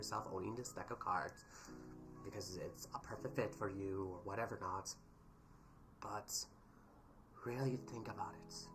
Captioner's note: breathes